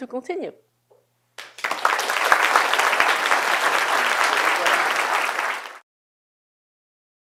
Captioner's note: applause